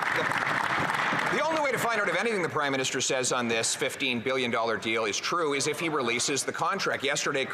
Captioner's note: some Applause